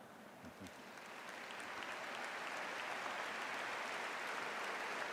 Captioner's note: audience laughs; audience applauding